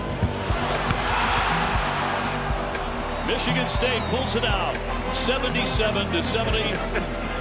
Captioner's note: crowd shouts; band music